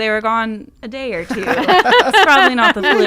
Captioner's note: laughing